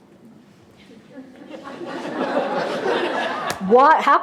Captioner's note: laughter